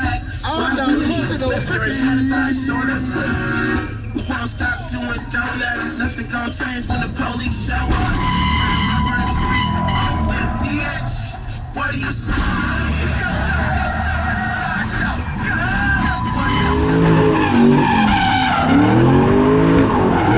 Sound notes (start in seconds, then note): 8.4 tires squealing; 15.8 tires squealing; 17.4 engine roaring